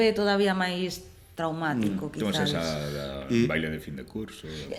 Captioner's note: none